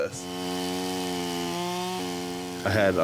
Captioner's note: tool buzzing